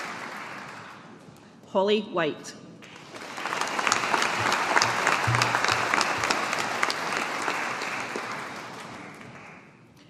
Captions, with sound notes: Holly White. (AUDIENCE APPLAUDING)